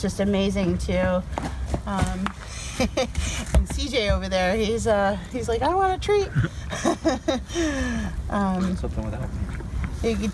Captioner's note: laughs